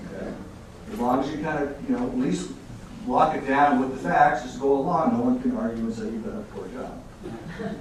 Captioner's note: audience laughing